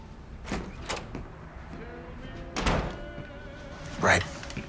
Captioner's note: door clicking